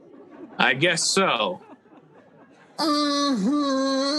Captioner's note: audience laughing